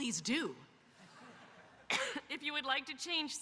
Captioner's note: audience laughing